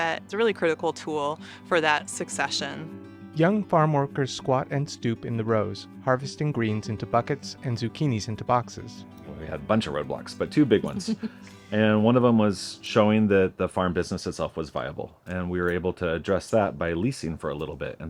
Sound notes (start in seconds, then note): 3.9 tender music break; 10.7 chuckles